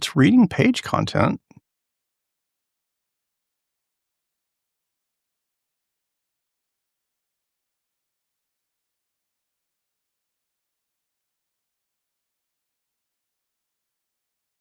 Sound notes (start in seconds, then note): 1.6 blank Audio